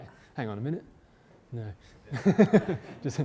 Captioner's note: laugh